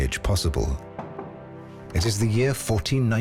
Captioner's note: knock on door